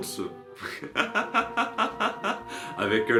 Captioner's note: laughs